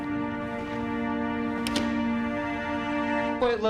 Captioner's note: door closes